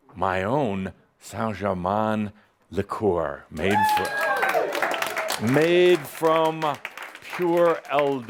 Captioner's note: cheering and applause